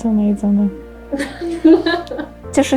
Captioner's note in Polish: śmiech w tle